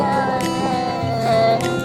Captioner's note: kid crying